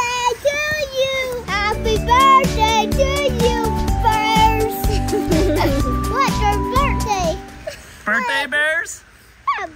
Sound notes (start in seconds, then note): 4.8 laughing